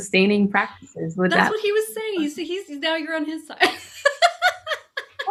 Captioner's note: laughing